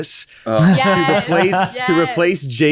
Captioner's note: all laughing